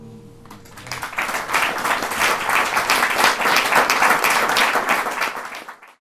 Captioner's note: applause